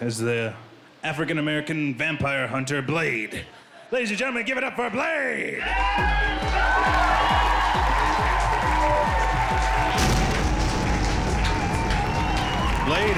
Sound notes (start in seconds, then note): 5.6 crowd cheering; 9.8 explosion